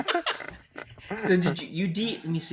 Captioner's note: both laughing